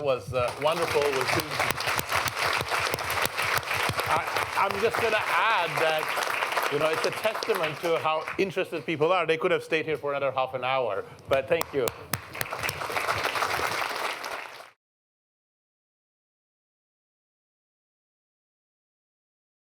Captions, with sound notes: That was wonderful. [APPLAUSE] I'm just going to add that it's a testament to how interested people are. They could have stayed here for another half an hour, but thank you. [APPLAUSE]